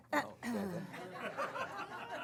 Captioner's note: Mary clears throat; laughter